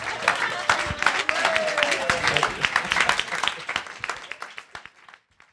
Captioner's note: audience laughing and clapping